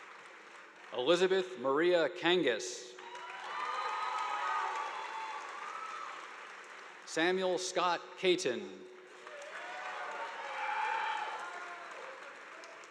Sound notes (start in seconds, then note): 3.0 audience applauding; 9.0 audience applauding